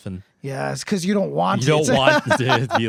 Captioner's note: laughing